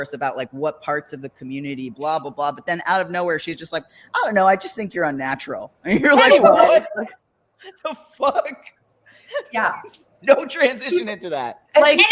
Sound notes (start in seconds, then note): 6.1 all exclaim